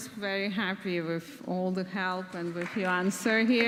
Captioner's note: audience claps